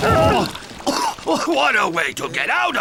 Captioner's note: spluttering